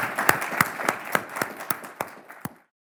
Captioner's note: audience applauds